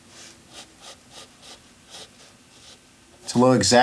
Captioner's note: pencil scraping